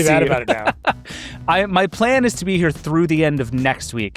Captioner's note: laughs